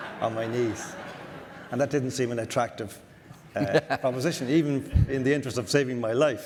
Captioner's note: audience laughter